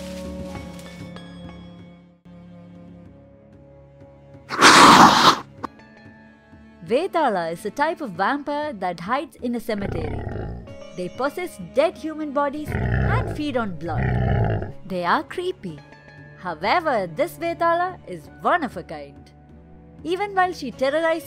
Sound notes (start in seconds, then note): 4.5 screams!!!